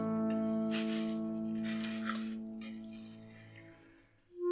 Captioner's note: crunching and snickering